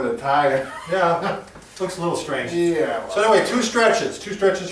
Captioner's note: chuckles